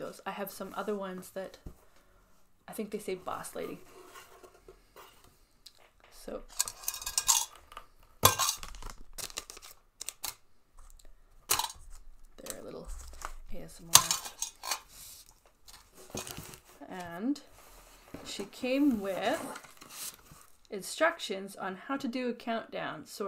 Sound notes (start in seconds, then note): 6.2 plastic-y crinkle sounds; 6.2 tin clonk; 6.5 rattling in tin sounds; 13.8 box shuffles; 13.9 tin clonks